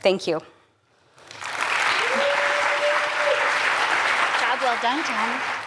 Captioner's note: applause